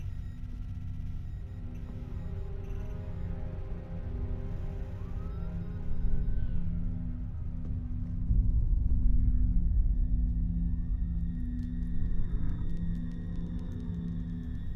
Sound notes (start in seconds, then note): 4.9 siren wails in distance